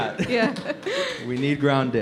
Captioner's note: laughs